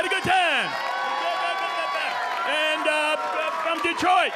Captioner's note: audience cheering